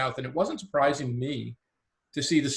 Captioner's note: none